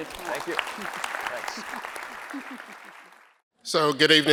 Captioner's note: audience applauding